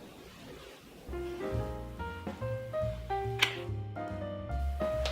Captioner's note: snap; jazz music